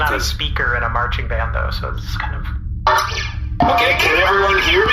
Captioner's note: broadcasting loudly